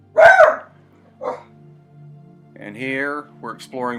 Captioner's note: dog barks